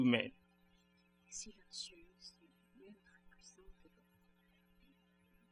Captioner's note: speaking french